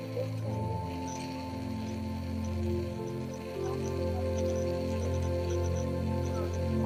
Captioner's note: gentle music continues; tourists chattering